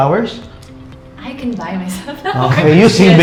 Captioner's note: laughs